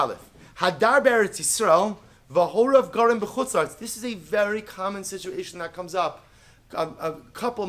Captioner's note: Hebrew